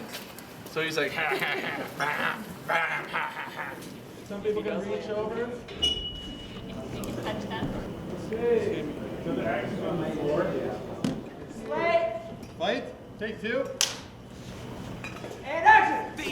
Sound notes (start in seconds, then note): 6.2 people chattering; 15.0 slate clicks